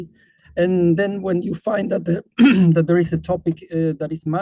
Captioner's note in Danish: clears throat